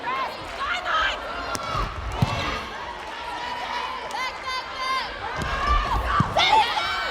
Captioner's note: players yelling